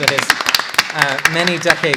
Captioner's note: applause